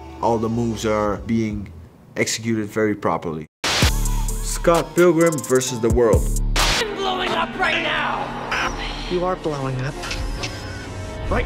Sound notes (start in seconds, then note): 3.6 static crackles; 3.6 upbeat music